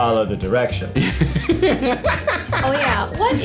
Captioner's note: laughing